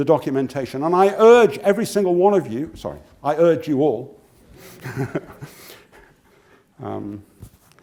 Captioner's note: laugh